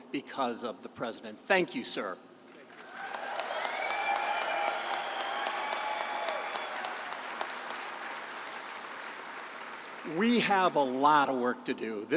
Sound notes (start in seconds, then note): 2.6 applause